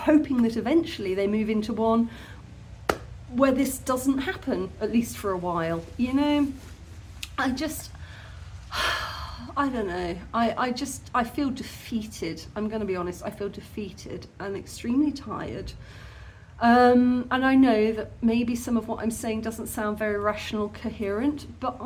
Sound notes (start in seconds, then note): 8.7 sigh